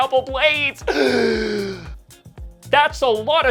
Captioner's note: deep exhale